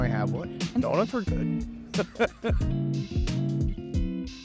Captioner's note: laughing